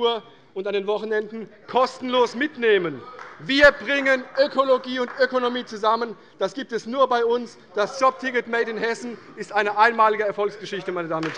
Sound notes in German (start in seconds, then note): 5.6 Beifall bei Abgeordneten der CDU - Zuruf von der CDU: Sehr gut!